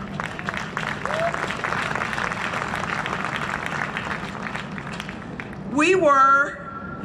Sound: cheering and Applause

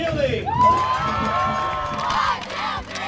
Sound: crowd cheering

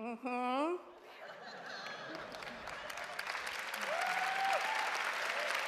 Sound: applause

